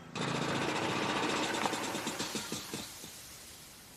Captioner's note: engine running